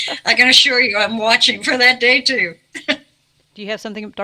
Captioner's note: both laughing softly; chuckles